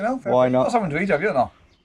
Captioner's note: beeps